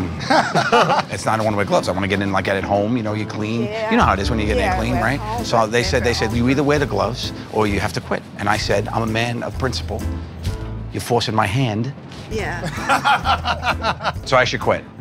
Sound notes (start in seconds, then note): 12.6 laughter